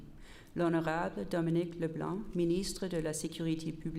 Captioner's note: repeated in French